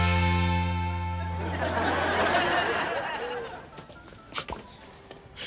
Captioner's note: audience laughs